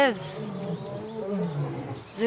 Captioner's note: lions chortling